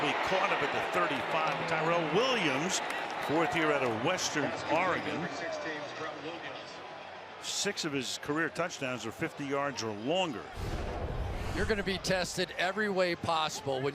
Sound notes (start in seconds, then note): 5.7 pa announcement